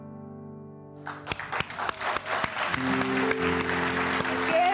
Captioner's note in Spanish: Aplausos